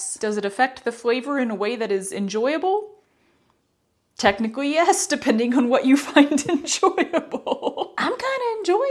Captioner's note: laughter